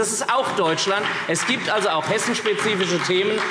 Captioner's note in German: Beifall SPD